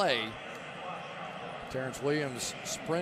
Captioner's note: pa announcement